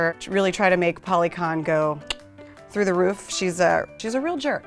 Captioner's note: tongue clicks